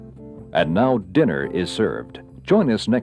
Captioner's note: voiceover